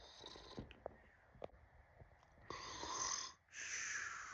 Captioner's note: Billy Snoring